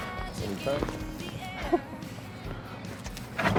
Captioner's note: laughs